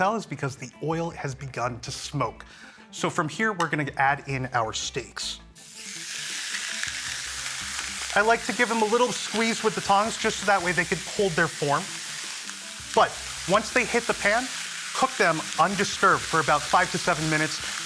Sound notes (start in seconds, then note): 5.8 sizzling loudly